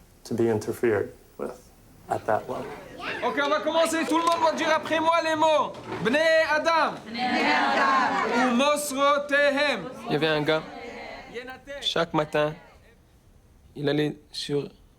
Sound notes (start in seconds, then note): 3.3 speaking in foreign language; 7.3 women speaking in foreign language; 8.5 speaking in foreign language